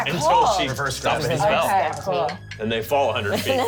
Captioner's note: excited chatter